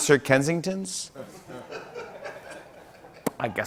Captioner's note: laughter